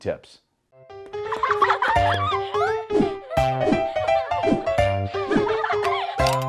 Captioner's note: bright upbeat music; children laughing playfully